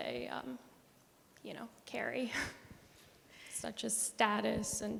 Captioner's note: chuckles